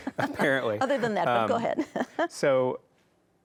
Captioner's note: chuckles